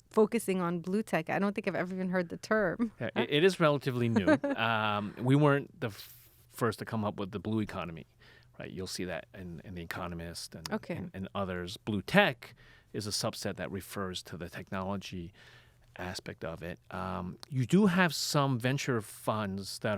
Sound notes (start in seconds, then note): 2.8 laughs